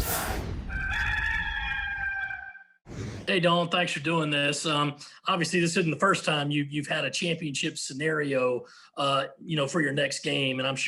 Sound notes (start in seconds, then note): 0.6 rooster crowing